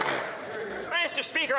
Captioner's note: some Applause